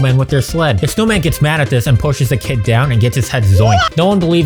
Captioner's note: Mario WAH sound